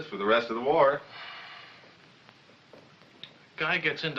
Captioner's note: sighs